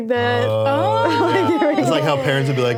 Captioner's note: laughs